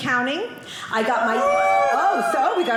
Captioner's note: audience cheering